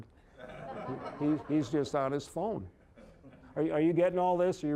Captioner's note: audience laughing